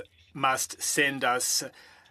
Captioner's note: speaking French